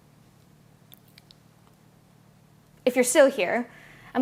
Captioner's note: long pause